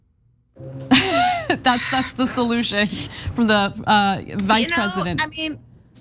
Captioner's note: laugh